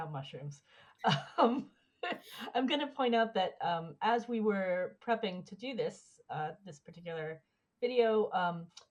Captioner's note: laughs